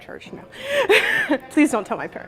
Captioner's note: laughing